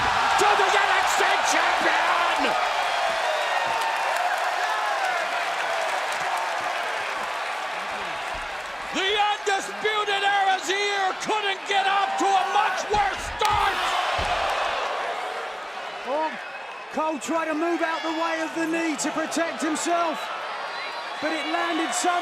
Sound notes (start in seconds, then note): 4.3 crowd cheering